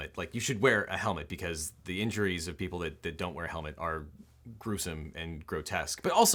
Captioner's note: none